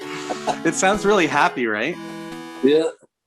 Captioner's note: laughs